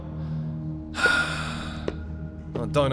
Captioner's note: sighs